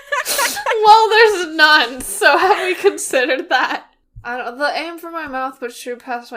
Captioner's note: both laughing